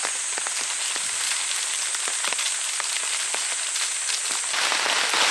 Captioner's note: ramen crinkle ASMR